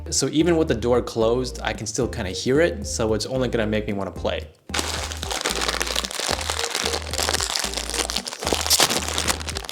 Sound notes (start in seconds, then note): 4.7 chip bag loudly rustling